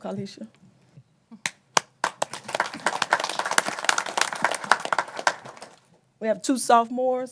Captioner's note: applause